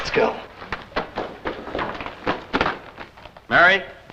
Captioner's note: footsteps